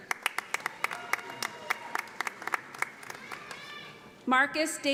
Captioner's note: audience applauding